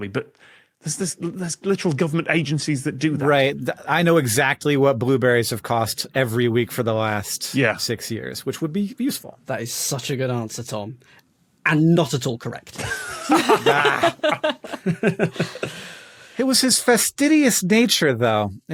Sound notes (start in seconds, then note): 12.8 laugh; 15.0 snickers